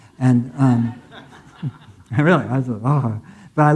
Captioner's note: audience laughing